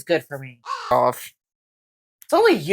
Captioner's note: caw